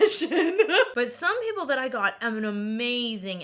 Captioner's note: laughing